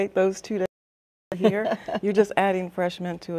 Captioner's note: chuckling